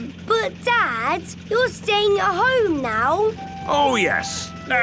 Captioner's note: none